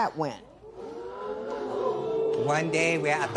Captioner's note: spectators Ooh